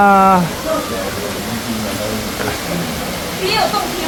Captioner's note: sound of flowing water